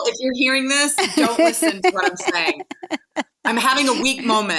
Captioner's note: laughing